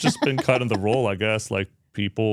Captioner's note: speaker laughs